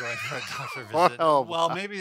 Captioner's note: laughter